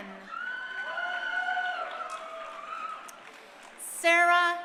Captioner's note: crowd cheering